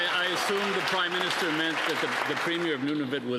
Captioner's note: cheering and Applause